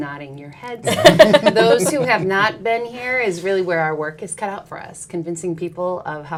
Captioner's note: laughs